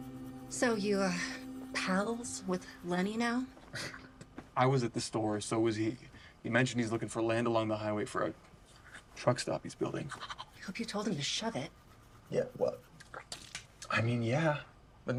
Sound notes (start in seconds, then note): 4.2 scoffs; 13.0 spits toothpaste